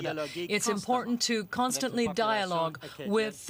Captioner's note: speaking French